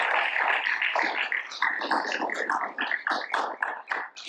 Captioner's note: audience applauds